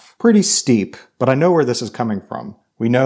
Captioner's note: none